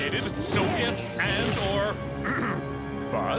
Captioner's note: clears throat